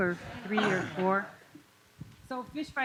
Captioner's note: laughter